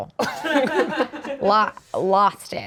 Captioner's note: everyone laughs